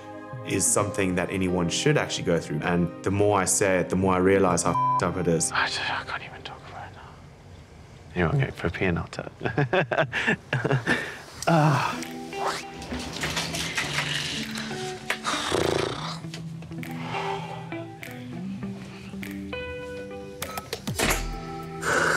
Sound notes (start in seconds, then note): 9.5 laughs; 11.3 sighs; 13.2 somber music; 15.4 sighs